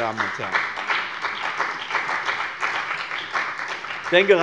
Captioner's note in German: Beifall bei dem BÜNDNIS 90/DIE GRÜNEN, der CDU und der SPD